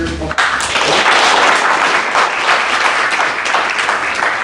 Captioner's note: applause